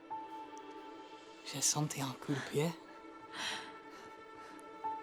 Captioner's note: speaking French